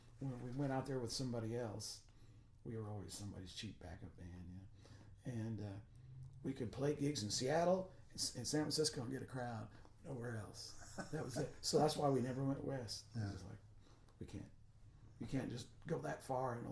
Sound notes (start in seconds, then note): 10.6 laughing